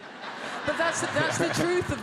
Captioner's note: audience laughs